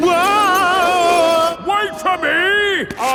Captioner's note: yelling